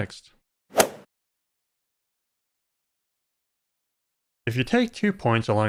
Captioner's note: golf ball hit sound